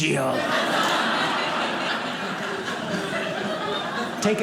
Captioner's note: audience laughing